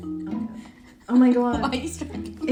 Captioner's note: laughing